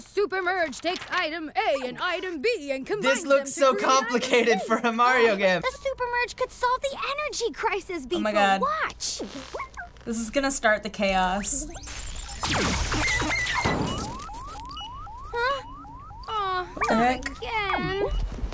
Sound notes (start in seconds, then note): 11.4 alarm beeping; 11.5 electricity zapping